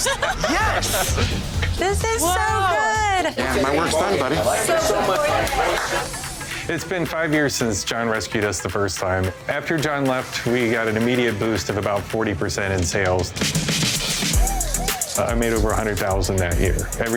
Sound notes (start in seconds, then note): 4.5 chatter